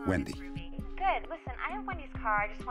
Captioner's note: on phone